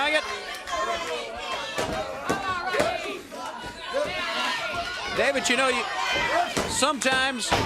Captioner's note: crowd chattering